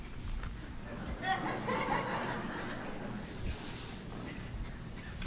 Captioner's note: congregation laughs